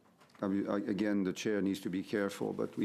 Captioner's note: speaking French